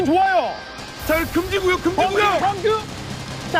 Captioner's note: sand storming